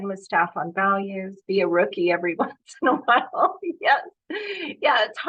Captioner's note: laughs